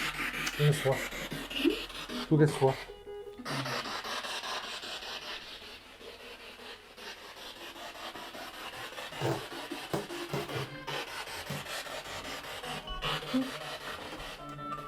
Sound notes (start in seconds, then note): 3.4 sound of the Spirit Box in the background